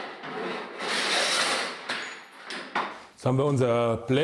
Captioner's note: hiss and clack